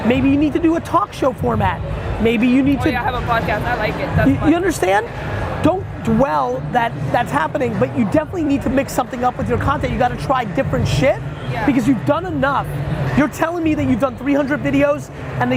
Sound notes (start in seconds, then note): 3.4 faintly speaking